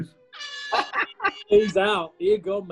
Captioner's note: klaxon; laughs